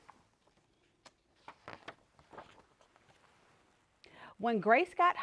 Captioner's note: page turning